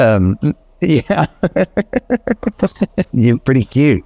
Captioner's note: laughs